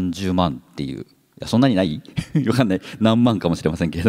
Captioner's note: chuckles